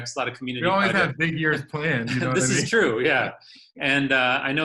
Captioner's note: laughter